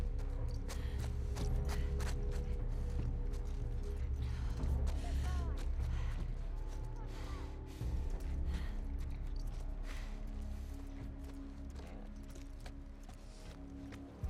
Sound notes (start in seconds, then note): none